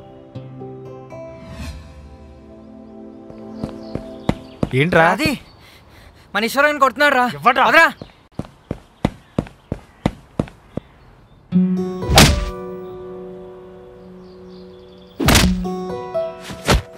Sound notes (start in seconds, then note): 1.3 music mutes voices; 5.4 panting; 8.3 footfalls